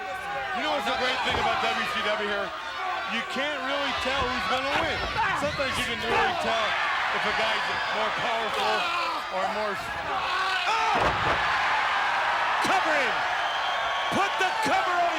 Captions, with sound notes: You know what's the great thing about WCW here? You can't really tell who's going to win. Sometimes you can really tell if a guy's more powerful or more... (body thudding) (crowd cheering) Cover him. Put the cover on Scotty.